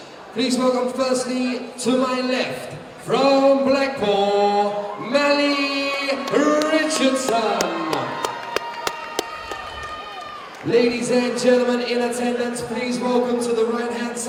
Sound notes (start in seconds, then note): 8.1 crowd cheers